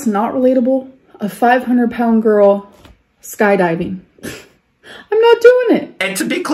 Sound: scoffs

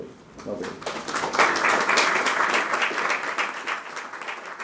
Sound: applause

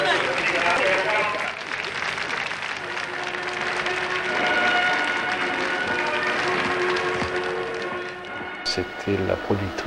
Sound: applause

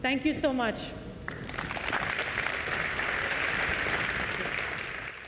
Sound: applause

